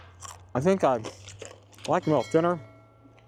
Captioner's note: crunch; crunching and mumbling through full mouth; slurp